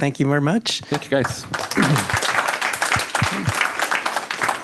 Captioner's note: applause